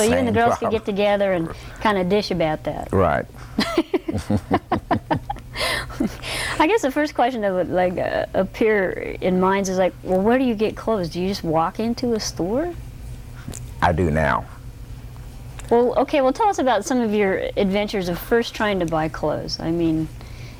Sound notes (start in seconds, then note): 3.6 laughter